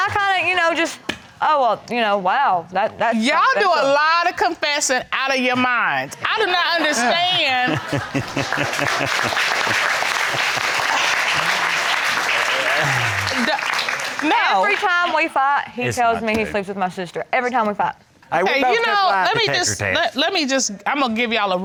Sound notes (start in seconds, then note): 7.6 crowd applaudes; 8.7 chuckling